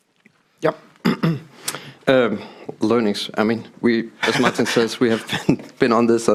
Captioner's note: laughing